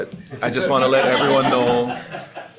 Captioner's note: group laughs